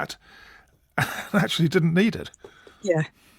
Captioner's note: laughs